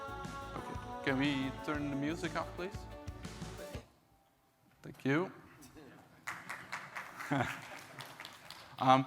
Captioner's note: applause